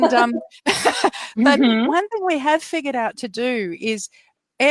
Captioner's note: laughs